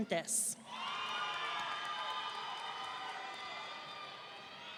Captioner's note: audience cheering